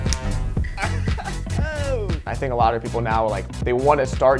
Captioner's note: chuckles